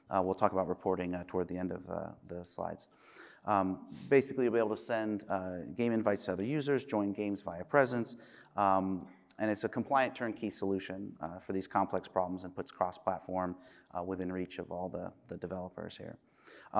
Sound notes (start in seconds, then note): none